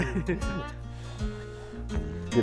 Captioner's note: blowing